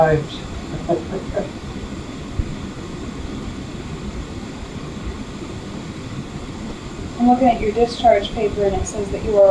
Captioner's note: laughs